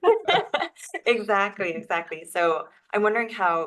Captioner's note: laugh